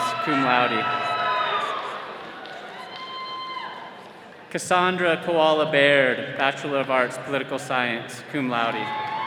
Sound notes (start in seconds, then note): 0.0 all cheering